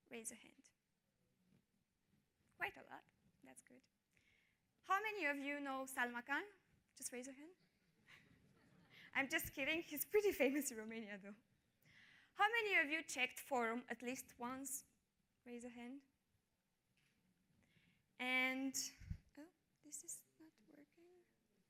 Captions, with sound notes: Raise a hand. Quite a lot. That's good. How many of you know Salman Khan? Just raise a hand. (chuckles) I'm just kidding. He's pretty famous in Romania, though. How many of you checked for at least once? Raise a hand. And oh, is this not working?